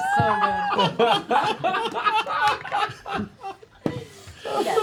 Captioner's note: laughter